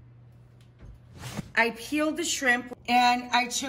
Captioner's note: air whooshes